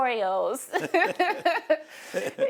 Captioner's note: laughter